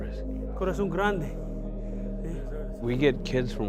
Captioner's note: foreign language